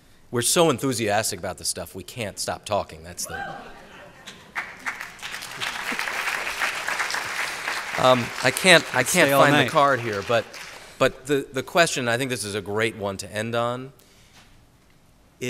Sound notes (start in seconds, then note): 4.3 applause